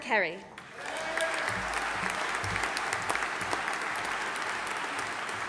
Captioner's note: audience applauding